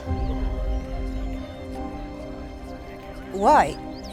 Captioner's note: evil whispers